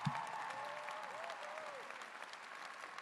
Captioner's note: cheers and applause